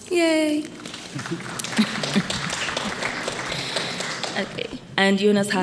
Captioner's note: attendees applauding